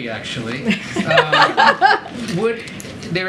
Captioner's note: laughter